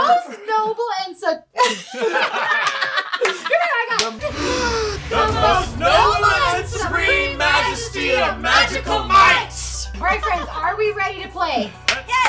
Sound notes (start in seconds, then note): 1.6 laughing; 2.6 claps; 4.2 deep breaths